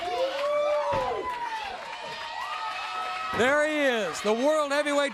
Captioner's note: crowd chatter; crowd cheering